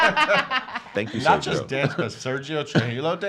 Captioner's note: laughs